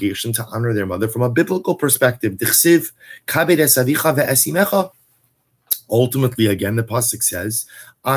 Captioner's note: Hebrew